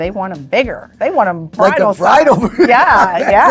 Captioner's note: laughing